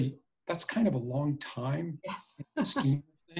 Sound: laughs

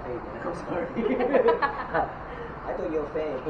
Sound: laughter

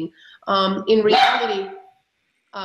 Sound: dog barks

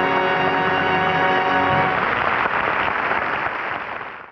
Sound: audience applause

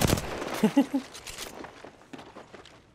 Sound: laugh

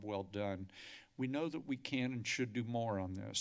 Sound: inhales

